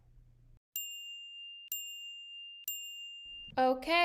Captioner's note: timer chiming